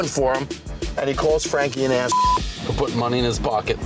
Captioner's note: beep